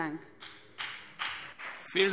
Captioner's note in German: Beifall BÜNDNIS 90/DIE GRÜNEN und DIE LINKE